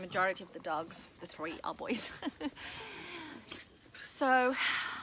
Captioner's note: laughs